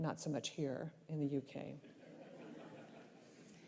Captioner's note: laughter